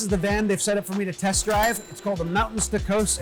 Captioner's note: bell dings